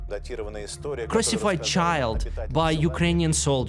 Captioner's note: speaking Russian